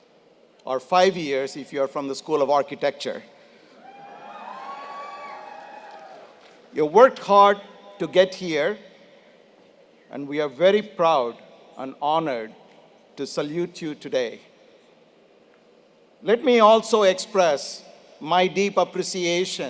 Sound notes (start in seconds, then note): 4.3 applause